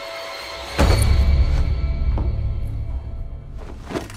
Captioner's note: sack thuds